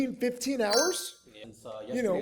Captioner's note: bell chimes